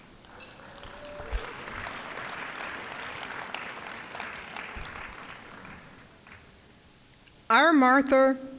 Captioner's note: applause